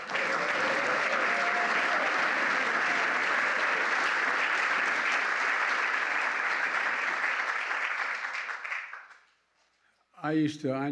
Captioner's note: applause